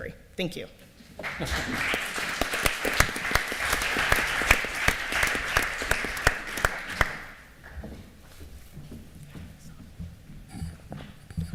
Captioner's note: applause